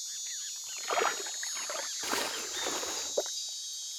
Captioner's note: birds chirping